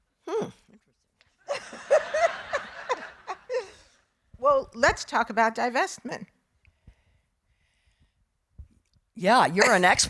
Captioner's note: laughing